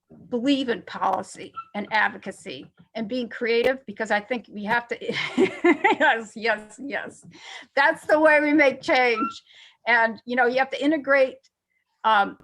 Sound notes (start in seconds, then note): 5.1 chuckles